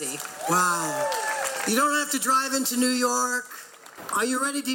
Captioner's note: crowd clapping and cheering